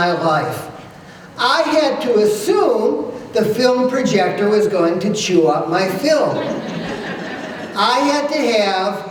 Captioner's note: laughter